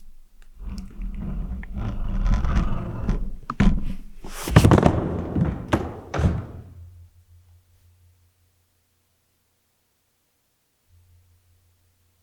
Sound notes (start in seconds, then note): 0.8 camera scraping; 3.8 body thudding